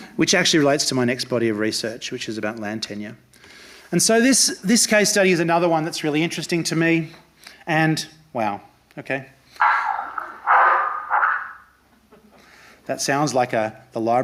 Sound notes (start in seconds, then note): 9.6 dog barking